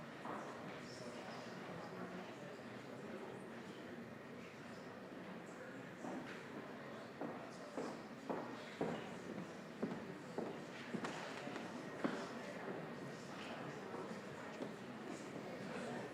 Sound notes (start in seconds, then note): 4.8 general chatter